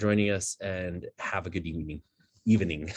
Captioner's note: laughing